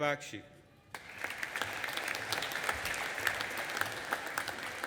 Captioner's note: audience applauding